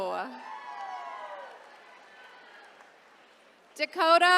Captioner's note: attendees cheering